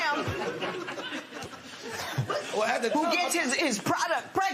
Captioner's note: laughter